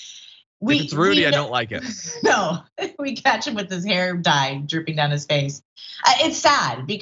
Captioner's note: laugh